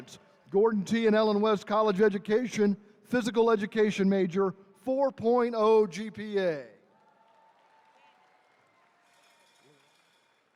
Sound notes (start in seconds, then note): 6.9 attendees cheering